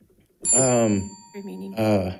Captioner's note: bell ringing